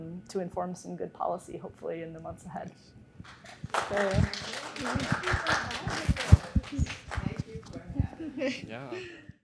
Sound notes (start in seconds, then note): 3.2 clapping